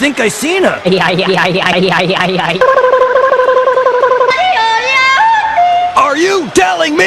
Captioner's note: stammering, yodeling